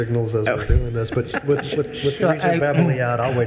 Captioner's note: laughing